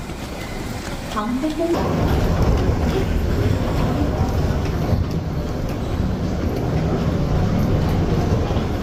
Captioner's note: luggage wheels clicking on the floor